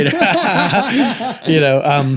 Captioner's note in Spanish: reír